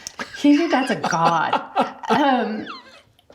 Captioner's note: laughs